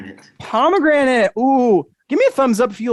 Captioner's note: exclaiming